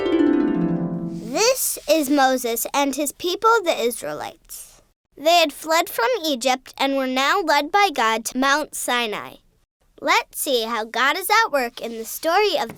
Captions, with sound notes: - [Voiceover] This is Moses and his people the Israelites. They had fled from Egypt and were now led by God to Mount Sinai. Let's see how God is at work in the story of